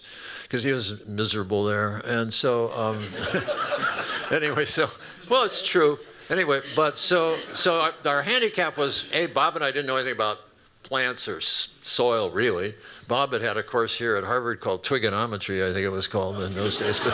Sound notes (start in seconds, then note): 2.9 laughter